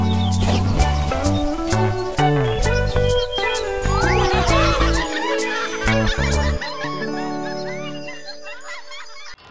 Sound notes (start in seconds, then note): 0.2 water splashing; 3.9 giggling